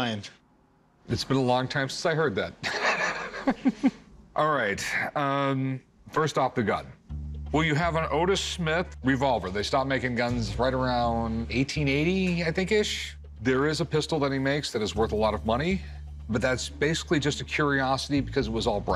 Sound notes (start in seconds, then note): 2.6 laughs